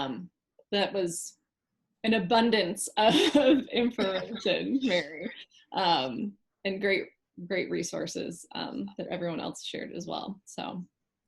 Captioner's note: laughing